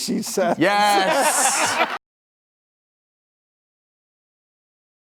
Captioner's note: all laughing; laughing